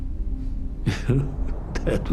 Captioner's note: laughter